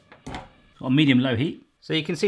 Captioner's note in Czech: zapínání sporáku